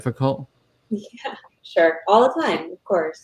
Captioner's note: chuckles